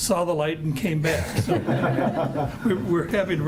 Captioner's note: group chuckles